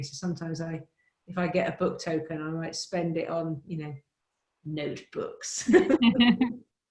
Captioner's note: laughs